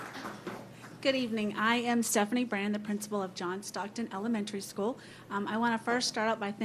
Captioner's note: applause